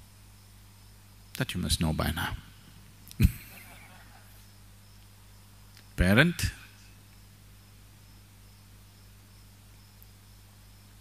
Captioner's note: few Laugh